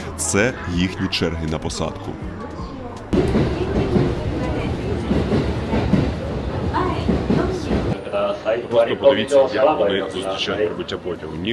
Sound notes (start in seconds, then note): 3.0 the noise of the train on the right